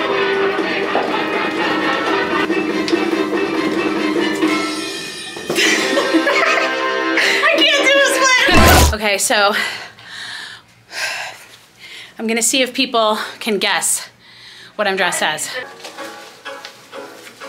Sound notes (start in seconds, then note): 5.9 laughing